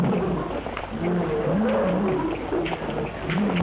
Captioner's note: animal sounds